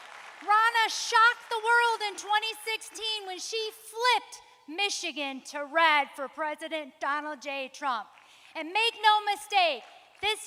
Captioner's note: applause